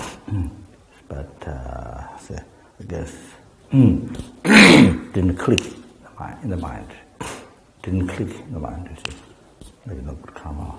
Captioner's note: snaps fingers